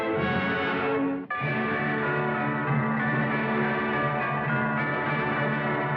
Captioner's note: bells Pealing